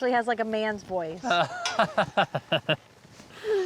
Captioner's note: laughing